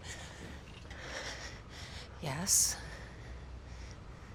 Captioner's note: panting